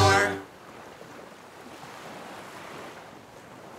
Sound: water flowing

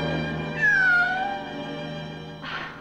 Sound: meow

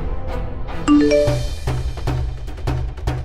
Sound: mobile phone chimes

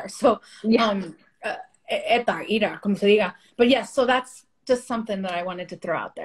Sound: speaking spanish

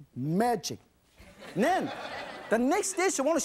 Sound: audience laughing

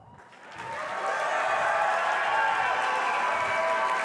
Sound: applause and cheering

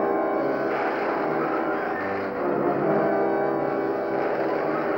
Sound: zapping

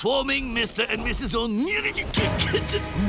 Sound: stammering

